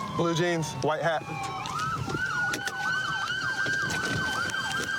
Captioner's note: siren wailing